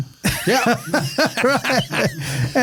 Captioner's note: laughing